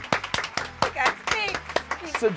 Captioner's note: audience applauds